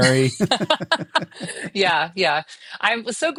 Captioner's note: both laugh